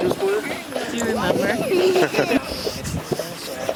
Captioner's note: laughs